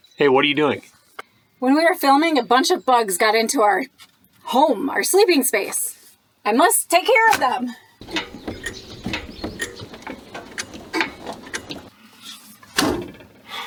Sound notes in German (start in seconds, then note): none